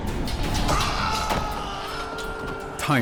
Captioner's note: screams